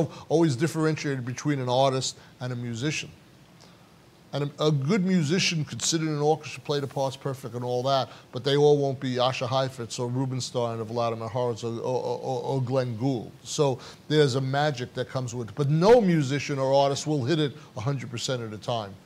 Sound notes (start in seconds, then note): none